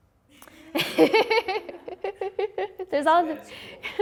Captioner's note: laughing